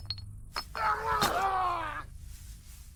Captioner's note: computer over speaker; brick crack